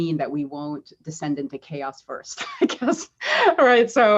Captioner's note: laughs